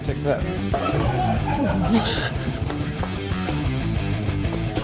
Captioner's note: rock music; vocalizing